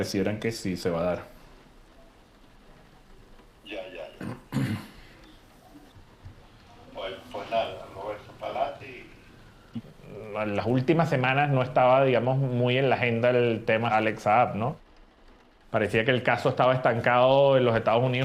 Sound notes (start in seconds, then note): 3.5 on phone; 4.1 clears throat